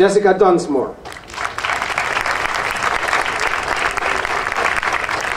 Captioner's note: audience applauding